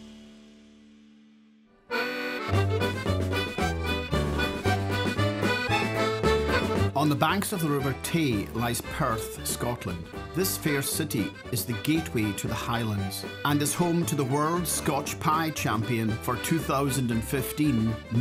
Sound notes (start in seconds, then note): 1.9 lively accordion music; 5.6 voiceover, with Scottish accent